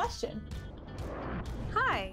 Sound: sound wave

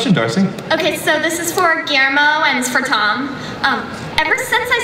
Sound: voiceover

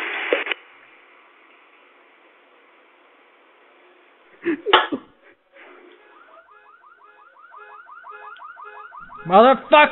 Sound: coughing

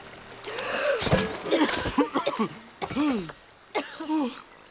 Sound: both gasping and coughing

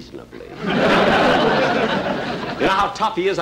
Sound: audience Laughing

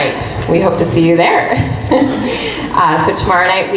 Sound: laughs

